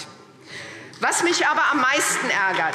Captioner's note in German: Beifall SPD